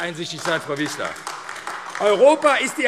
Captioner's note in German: Beifall AfD